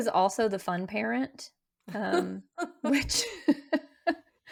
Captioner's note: laughing